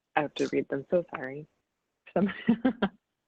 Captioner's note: laughs